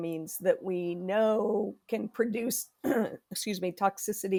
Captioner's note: clears throat